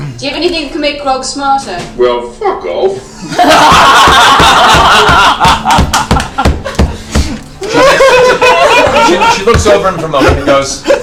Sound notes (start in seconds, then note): 3.2 all laugh